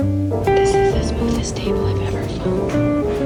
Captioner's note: whispering